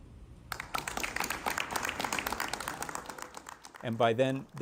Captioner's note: students clapping